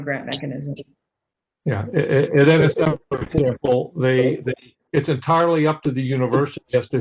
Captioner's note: tech noises